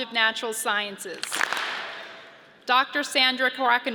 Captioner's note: audience claps